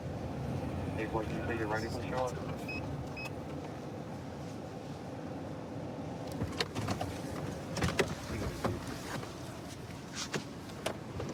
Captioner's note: indistinct dispatch speech